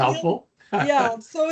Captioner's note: laughing